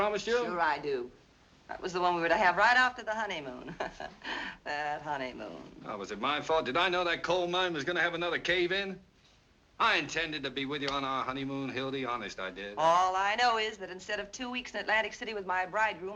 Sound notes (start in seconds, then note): 3.5 laughs